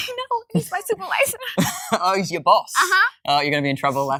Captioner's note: laughs